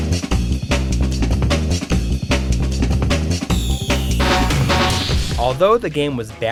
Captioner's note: game audio